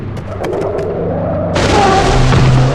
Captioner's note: thunder; breaks squeal